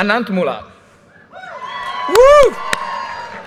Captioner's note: audience cheers and applause